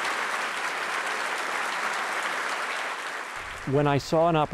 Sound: applause

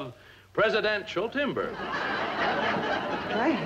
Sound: audience laughs

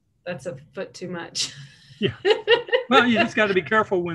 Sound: laughs

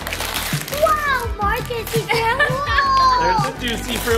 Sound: mom laughs

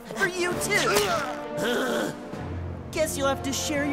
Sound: grunts

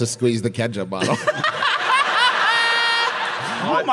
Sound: griffin laughs

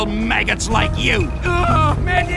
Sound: The Panther A groans

